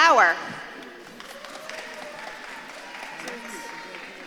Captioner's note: audience claps and cheers